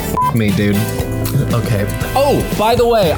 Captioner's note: upbeat music; beep